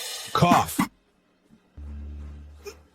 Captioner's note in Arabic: سعال